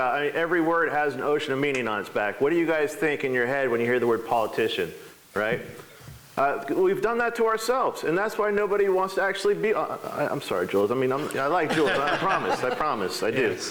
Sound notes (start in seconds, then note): 11.5 laughing